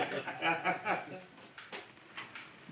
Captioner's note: laughter stops